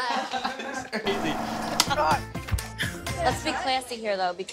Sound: laughter

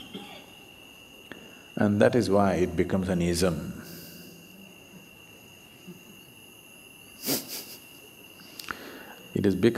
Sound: laughs

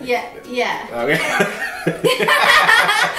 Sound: chuckling

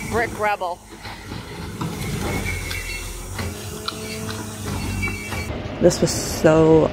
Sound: engine noise

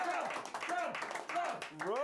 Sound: audience cheering

